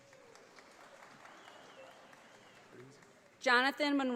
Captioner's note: audience applauding